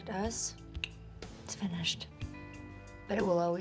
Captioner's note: clicks teeth